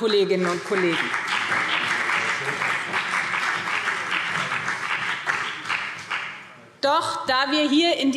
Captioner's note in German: Beifall BÜNDNIS 90/DIE GRÜNEN und CDU